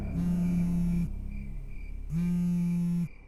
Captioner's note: buzzing